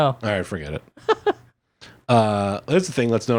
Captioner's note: laughs